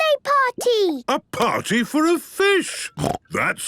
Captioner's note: snorting